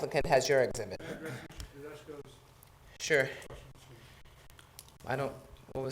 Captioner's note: talking quietly